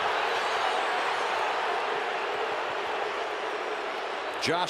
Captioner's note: crowd clamoring